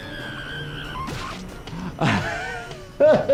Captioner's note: screaming